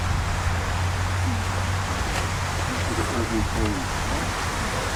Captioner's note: traffic Noises & People Talking